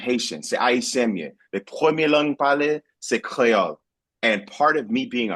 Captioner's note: speaking Spanish